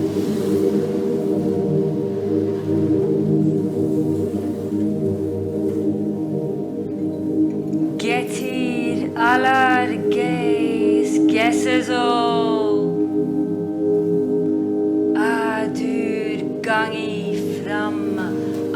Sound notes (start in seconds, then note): 8.0 non-english speech